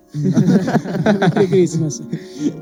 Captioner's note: laughs